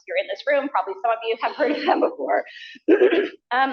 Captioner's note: laughter